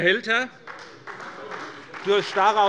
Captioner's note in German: Beifall bei der SPD